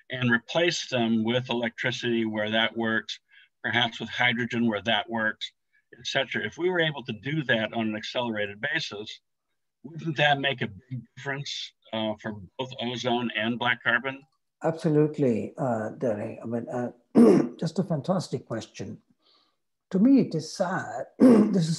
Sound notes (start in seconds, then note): 17.1 clears throat